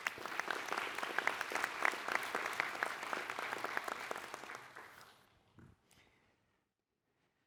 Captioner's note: applause